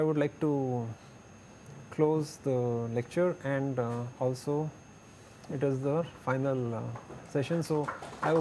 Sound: blower

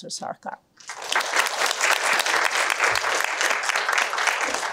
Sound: applause

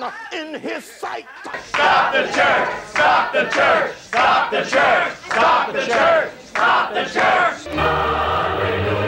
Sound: chanting

